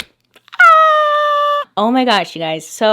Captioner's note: yells